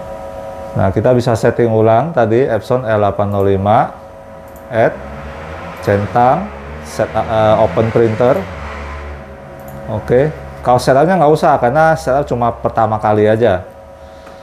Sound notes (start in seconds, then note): 3.7 motorcycle engine noise